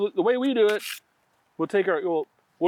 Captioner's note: knife scraping